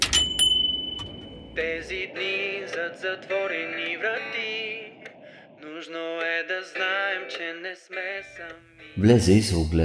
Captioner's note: radio